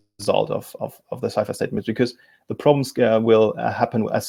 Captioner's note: murmurs